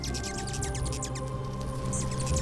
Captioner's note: chirping